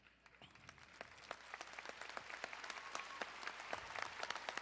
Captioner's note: crowd applauding